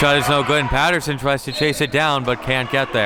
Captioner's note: whistle blows